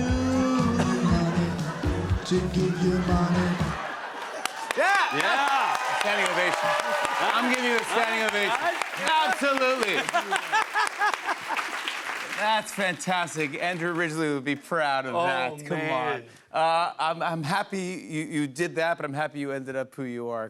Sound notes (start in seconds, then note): 6.5 cheers and applause; 9.0 laughs